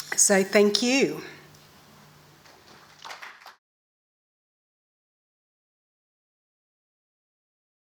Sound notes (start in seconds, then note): 2.4 audience claps